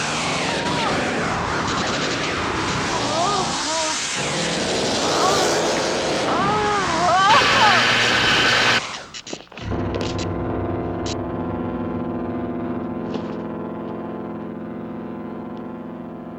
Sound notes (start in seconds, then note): 8.3 zapping; 9.6 somber music